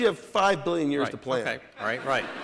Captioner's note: laughter